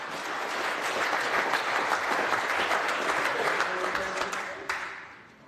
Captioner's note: applause